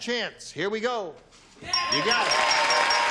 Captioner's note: pinging